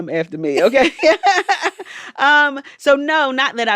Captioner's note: laughter